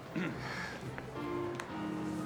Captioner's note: clears throat